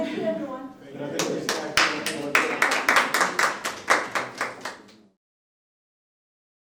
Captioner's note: applause